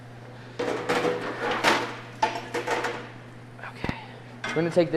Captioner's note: pans clattering